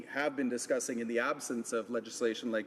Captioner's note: some Applause